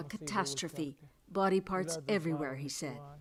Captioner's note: speaking alternate language